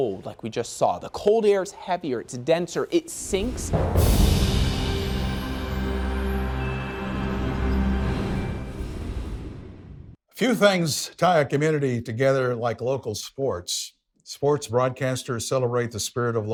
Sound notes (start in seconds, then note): 3.9 soft music; 4.1 wind whooshing